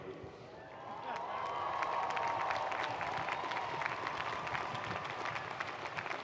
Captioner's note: audience cheering and applauding